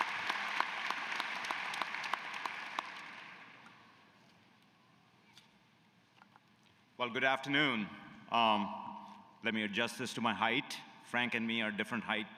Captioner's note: cheers and applause